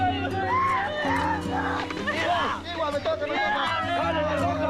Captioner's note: women screaming